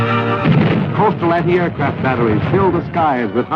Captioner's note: guns firing